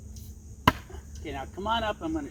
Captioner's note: ax chops